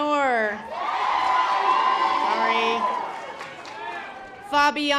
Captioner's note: audience applause